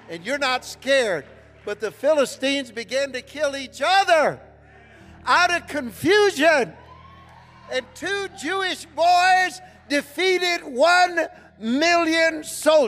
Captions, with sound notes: - And you're not scared. But the Philistines began to kill each other! Out of confusion. (congregation cheering) And two Jewish boys defeated 1,000,000 soldiers.